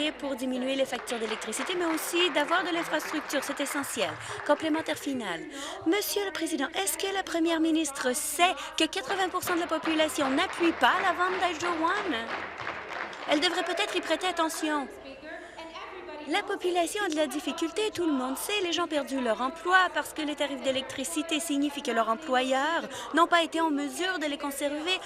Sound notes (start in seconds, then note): 16.8 applause